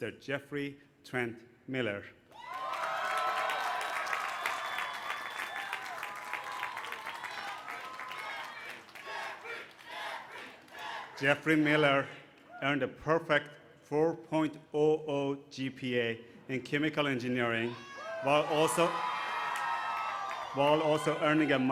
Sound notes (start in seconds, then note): 2.5 applause; 5.2 chants his name